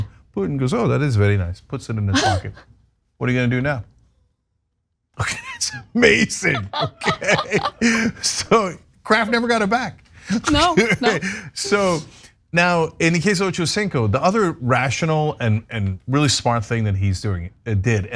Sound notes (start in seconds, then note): 7.6 laugh